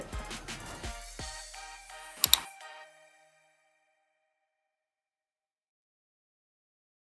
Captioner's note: mouse clicks